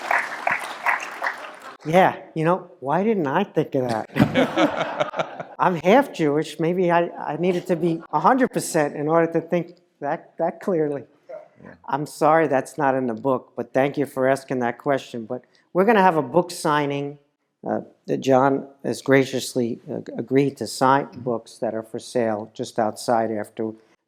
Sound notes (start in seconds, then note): 4.0 laugh